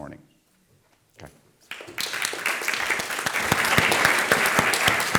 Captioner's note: audience applauds